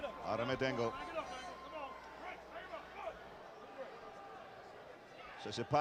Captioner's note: applause